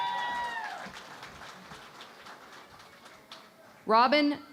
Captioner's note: cheering and Applause